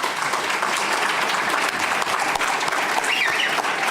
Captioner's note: applause